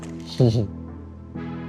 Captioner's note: chuckles